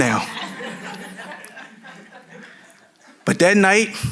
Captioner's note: audience laughing